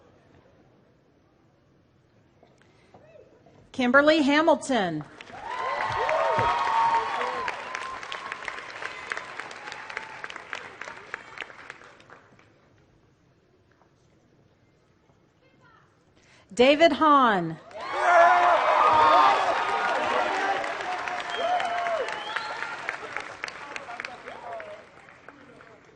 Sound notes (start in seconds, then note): 5.1 applause; 17.6 applause